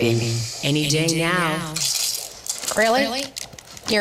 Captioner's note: man chews